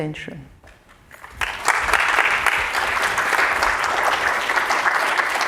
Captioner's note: applause